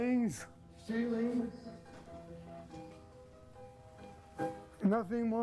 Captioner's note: reverb echoing